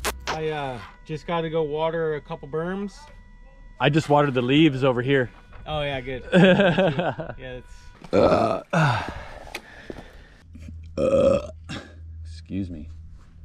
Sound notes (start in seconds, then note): 8.1 burping; 10.6 burping